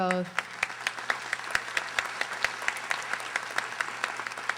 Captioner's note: audience applauding